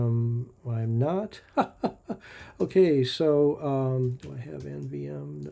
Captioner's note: laughs